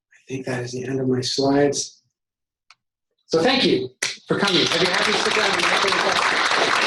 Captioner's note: applause